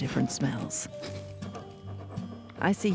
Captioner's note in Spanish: perro olfateando